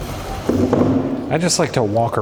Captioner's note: chair thuds